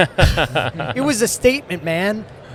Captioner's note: chuckling